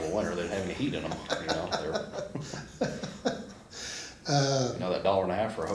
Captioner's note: laughs